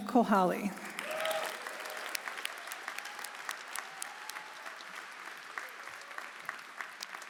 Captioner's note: audience applauding; audience cheering